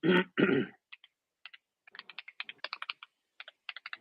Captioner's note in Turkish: boğazını temizler